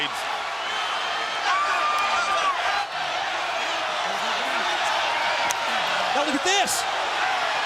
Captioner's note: crowd chatter